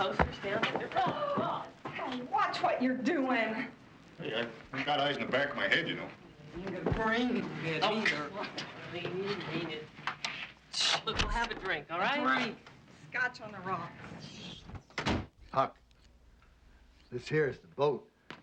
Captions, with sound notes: We'll just put these posts here. (body thumps) (Darlene groans) - Oh, watch what you're doin'! - Hey, I don't got eyes in the back of my head you know. - I ain't got a brain in your head neither. - Oh, Darlene, he didn't mean it. - Gee. - Look, we'll have a drink, all right? - Great, scotch on the rocks. Geez. - Huck, this here's the boat